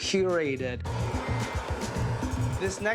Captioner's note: flame whooshes